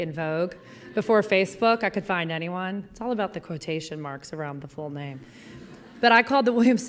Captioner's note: laughter